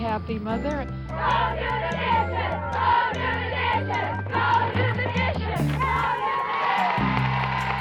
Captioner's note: chanting; cheers and applause